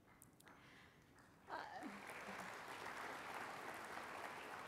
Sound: applause

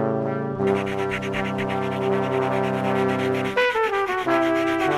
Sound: ASMR of pen scratching noises

